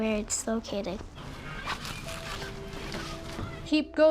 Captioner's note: plastic rubbing